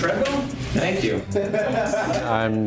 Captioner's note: students laugh